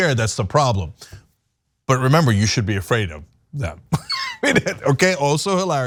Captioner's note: laugh